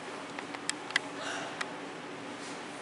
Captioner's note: CHORUS gasps